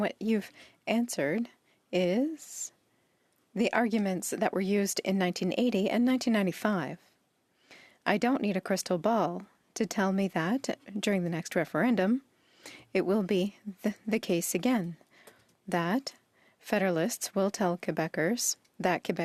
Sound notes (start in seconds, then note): 3.3 speaking French